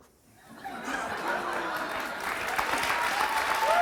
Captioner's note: audience laughs; audience applauds